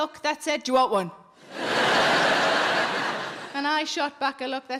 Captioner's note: audience laughing